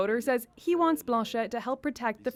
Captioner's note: speaking French